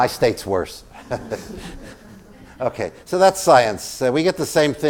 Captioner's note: laugh